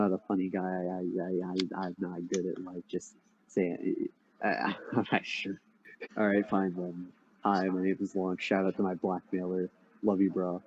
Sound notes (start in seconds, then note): 4.4 chuckles